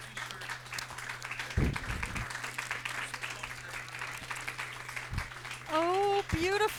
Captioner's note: applause